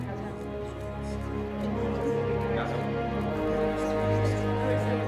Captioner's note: group chattering